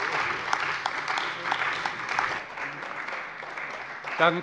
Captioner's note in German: Beifall bei der CDU und dem BÜNDNIS 90/DIE GRÜNEN